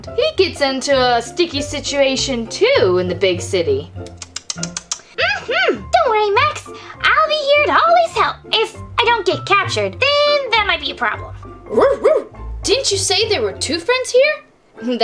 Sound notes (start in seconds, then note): 4.0 lips smacking; 11.7 barking